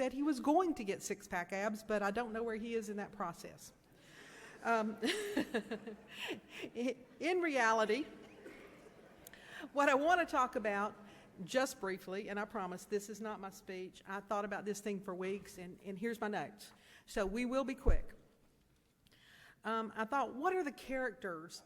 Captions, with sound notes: And today I could only talk about Zach Hawkins, who said he was going to get six-pack abs, but I don't know where he is in that process. [laughs] In reality, what I wanna talk about, just briefly, and I promise this is not my speech. I thought about this thing for weeks and here's my notes so we will be quick.